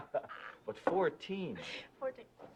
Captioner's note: laughing